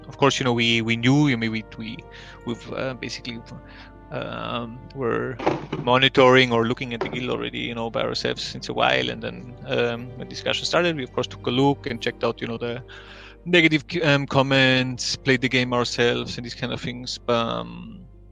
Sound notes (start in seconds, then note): 5.3 грохот